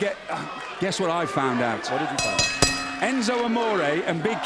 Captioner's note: bell ringing